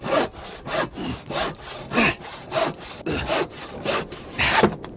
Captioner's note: sawing noises and heavy breathing